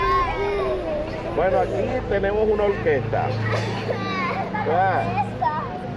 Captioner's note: children crying; in Spanish